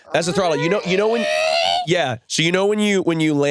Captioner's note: imitating engine